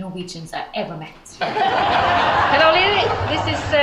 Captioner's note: audience laughs